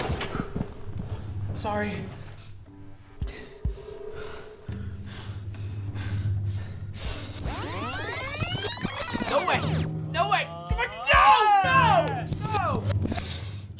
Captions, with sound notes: Sorry. (breaths heavily) (video rewinds) - No way. - No way.